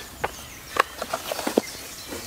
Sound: birds chirping

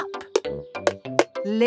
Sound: taping

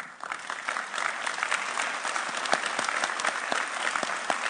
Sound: audience applauding

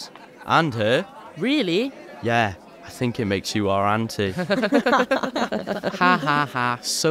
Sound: laughter

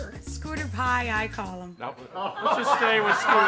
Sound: group laughs

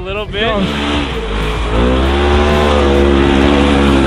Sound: engine roars

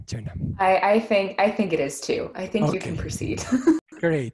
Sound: giggles

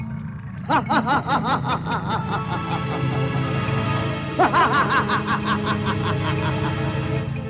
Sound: laughs

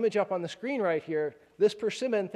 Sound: none

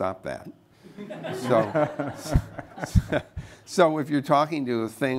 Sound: laughter

